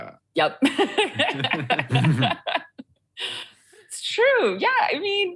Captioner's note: both laugh